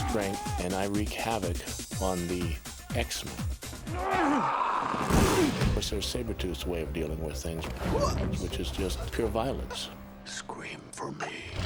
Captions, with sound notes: And I wreak havoc on the X-Men. (grunting) So Sabretooth's way of dealing with things, which is just pure violence. Scream for me.